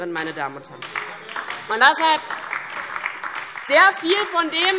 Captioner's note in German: Beifall DIE LINKE und vereinzelt SPD